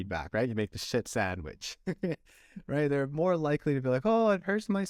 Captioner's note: laughter